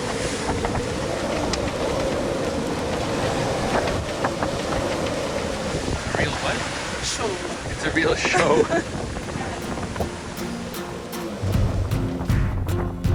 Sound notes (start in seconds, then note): 7.8 laughs; 10.1 dramatic rock music